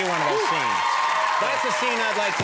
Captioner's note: crowd cheering